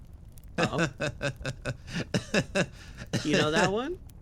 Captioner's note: Gartrinus Laugh